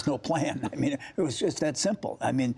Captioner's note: laughter